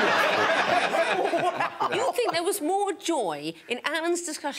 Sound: all laughing

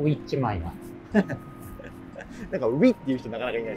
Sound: laughing

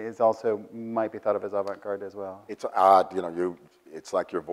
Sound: none

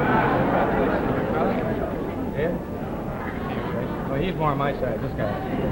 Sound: audience laughing drowns out speaker

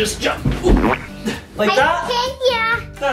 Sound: dad splats

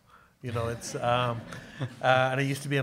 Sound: audience laughing

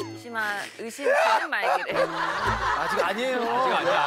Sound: wailing

